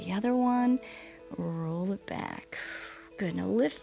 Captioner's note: exhales